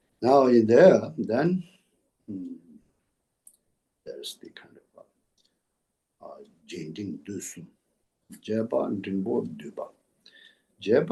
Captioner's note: tibetan